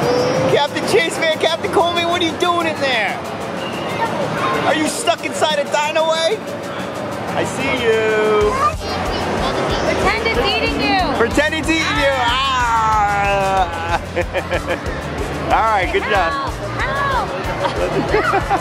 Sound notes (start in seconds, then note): 12.8 laughs; 13.0 growling; 17.5 laughs